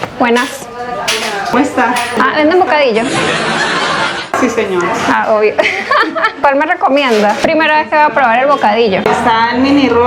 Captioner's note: laughs